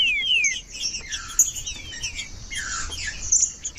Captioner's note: trinca ferro cantando